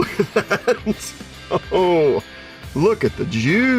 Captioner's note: laughing